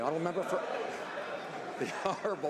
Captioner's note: some Applause